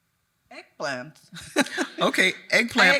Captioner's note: chuckles